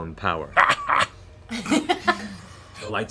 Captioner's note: laughs triumphantly